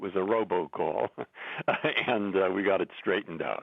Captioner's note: laughter